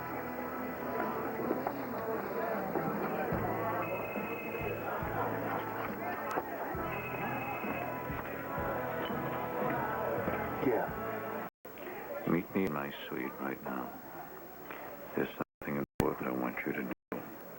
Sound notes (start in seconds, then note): 6.7 telephone rings